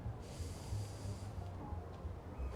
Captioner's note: breathes deeply